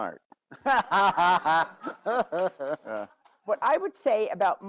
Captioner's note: all laugh